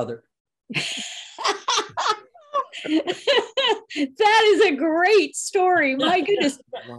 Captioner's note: laughs